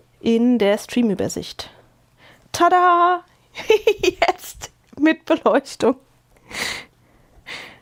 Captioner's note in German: Gelächter